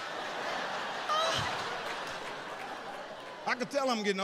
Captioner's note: audience laughs